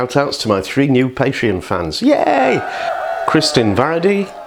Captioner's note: cheering